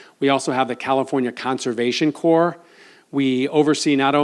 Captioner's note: none